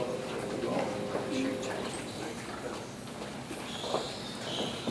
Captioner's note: audience chattering